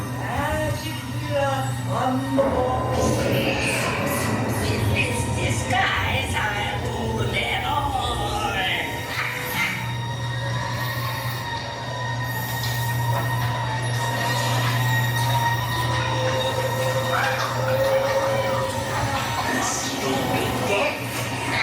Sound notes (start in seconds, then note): 2.4 thunder clapping; 17.1 raven cawing